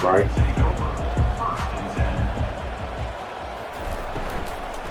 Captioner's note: crowd cheering